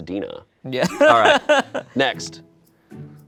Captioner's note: laughs